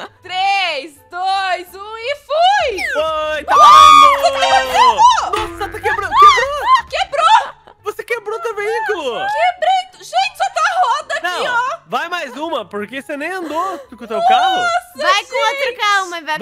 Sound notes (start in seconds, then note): 0.0 laughter; 3.4 screams